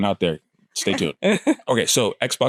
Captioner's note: laughs